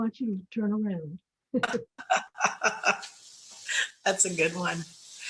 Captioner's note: laughter